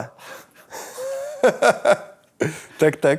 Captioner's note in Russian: смеется